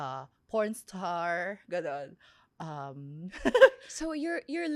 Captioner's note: laughs